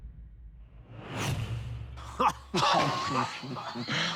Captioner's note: laughter